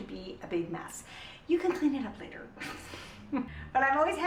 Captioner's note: laughs